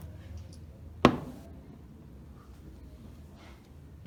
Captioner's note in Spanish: sonido de un gran LED sobre la mesa